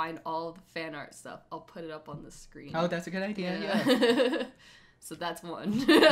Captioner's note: both laughs